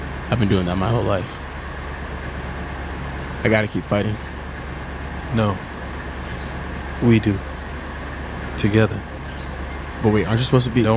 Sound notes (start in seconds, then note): none